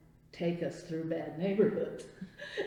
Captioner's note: laughs